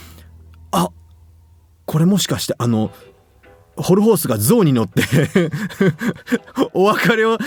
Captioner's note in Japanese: 笑い